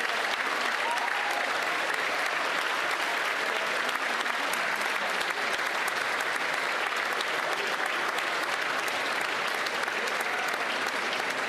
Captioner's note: applause